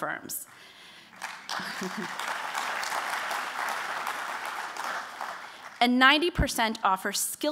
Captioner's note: applause